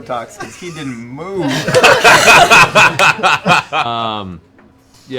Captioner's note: laughter